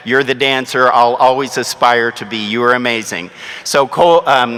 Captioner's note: none